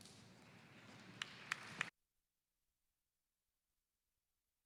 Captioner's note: audience applauds